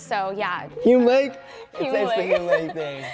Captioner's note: chatting and laughing